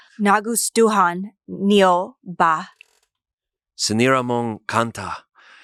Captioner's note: speaks foreign language